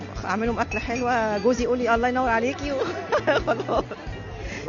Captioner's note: laugh!